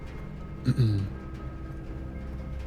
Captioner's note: clears throat